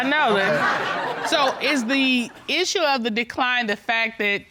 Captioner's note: audience laughing